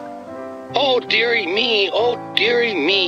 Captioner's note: through a voice box